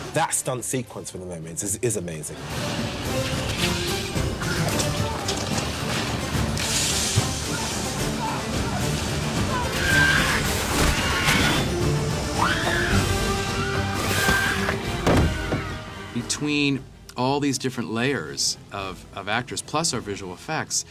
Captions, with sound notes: That stunt sequence from the mermaids is amazing. [indistinct shouting] [shrieks] [shrieking] Between all these different layers of, of actors, plus our visual effects,